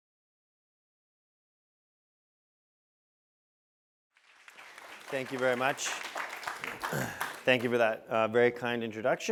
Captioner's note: applause